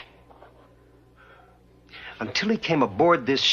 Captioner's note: doctor Burke sighs